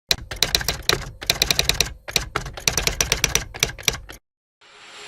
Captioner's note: typing; whoosh